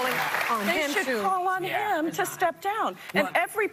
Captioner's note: applause